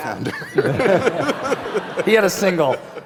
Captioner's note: laughter